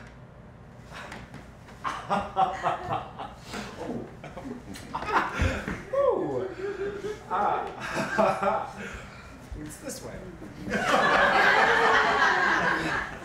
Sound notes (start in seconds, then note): 10.6 audience laughter